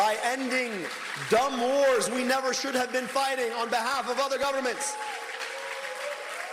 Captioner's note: cheers and applause